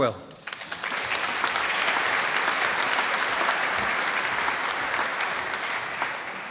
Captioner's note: applause